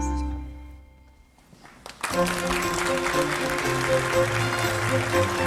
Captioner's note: audience applauding